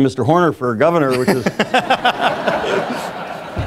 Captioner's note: audience laughs